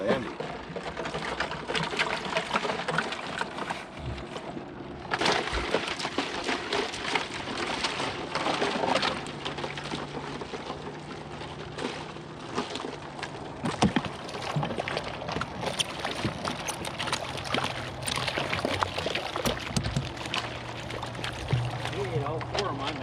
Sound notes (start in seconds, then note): 6.1 fish thrashing; 9.2 fish splashing